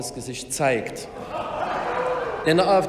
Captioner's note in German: Lachen bei der AfD